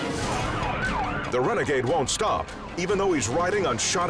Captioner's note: siren wailing